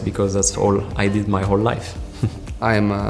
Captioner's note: chuckles